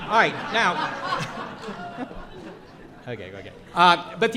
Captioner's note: audience laughs